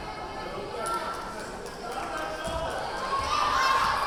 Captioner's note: yelling